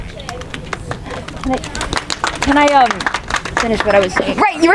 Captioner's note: audience applauding